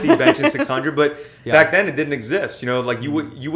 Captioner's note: laughter